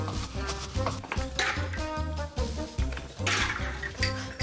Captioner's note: shot glasses clatter